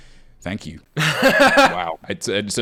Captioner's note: laughing